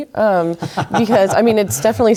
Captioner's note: laugh